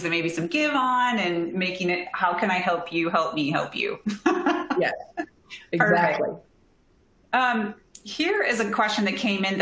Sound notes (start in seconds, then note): 4.1 laughter